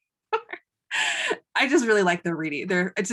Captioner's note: laughing